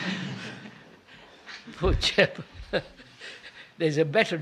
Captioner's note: laughs